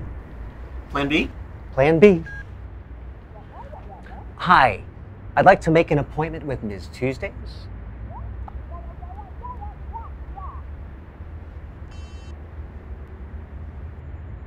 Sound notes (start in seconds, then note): 3.1 muffled voice on phone; 8.2 muffled voice on phone